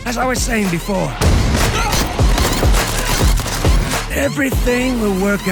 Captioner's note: gunfire clattering